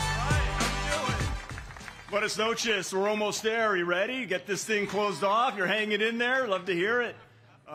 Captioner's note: cheers and applause